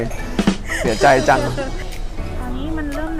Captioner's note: laughs